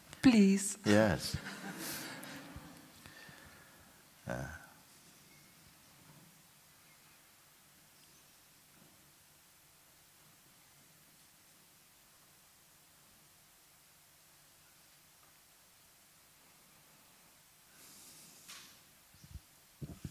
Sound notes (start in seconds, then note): 4.1 laughter; 4.9 silence